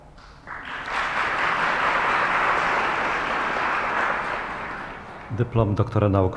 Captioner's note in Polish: oklaski